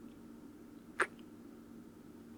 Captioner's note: kiss